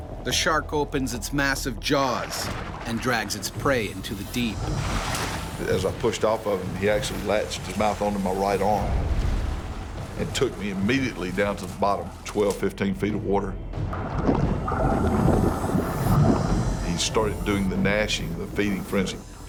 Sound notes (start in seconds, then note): 0.3 voiceover; 13.7 bubbling